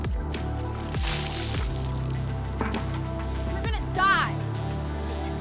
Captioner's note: water splashing